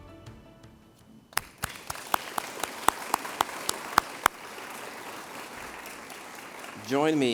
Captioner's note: applause